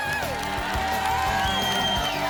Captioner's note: applause and cheering